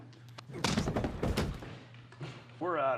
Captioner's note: fist thuds